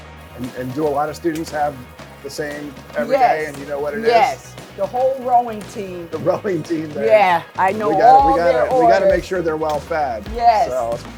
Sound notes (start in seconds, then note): 6.2 laughs